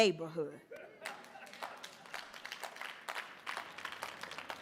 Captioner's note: audience applauding